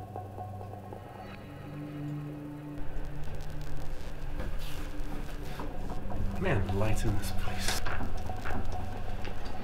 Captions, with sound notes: (lights buzzing) Man, the lights in this place.